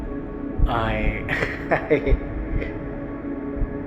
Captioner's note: laughing